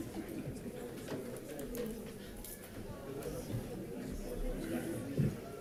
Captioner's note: audience chattering continues